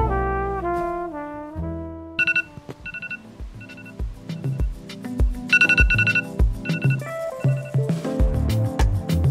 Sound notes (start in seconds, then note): 2.2 the alarm goes off